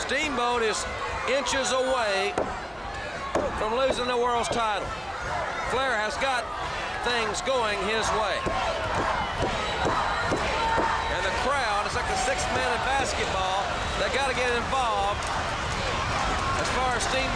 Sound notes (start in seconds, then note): 9.1 crowd cheering